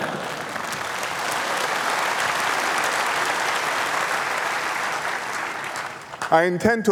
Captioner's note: applause